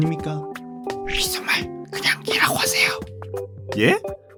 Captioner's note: whisper: Just say 'Yes'